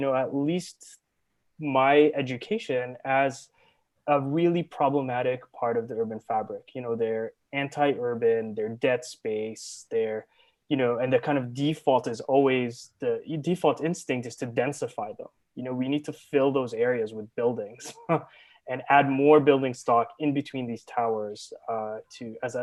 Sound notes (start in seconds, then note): 17.8 laughs